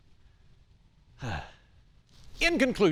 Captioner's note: sighs